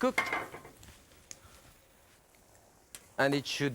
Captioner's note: skillet clatters